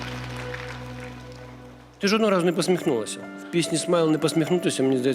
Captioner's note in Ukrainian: оплески